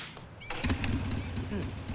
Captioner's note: motorcycle engine revs